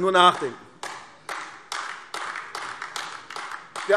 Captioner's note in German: Beifall AfD